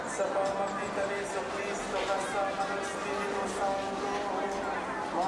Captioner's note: chanting prayer in foreign language